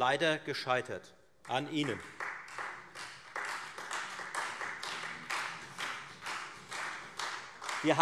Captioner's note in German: Beifall Freie Demokraten und vereinzelt SPD